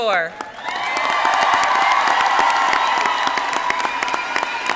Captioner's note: crowd cheering